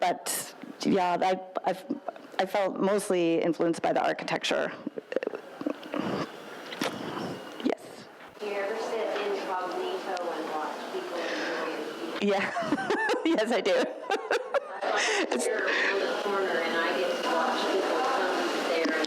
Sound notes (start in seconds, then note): 12.3 laughs; 15.2 woman speaks faintly